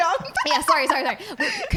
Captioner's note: laughing